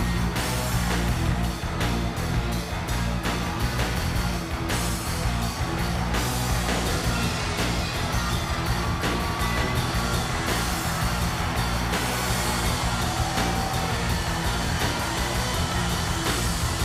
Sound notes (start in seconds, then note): 9.5 upbeat music continues; 13.3 audience cheers